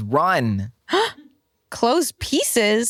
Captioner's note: gasps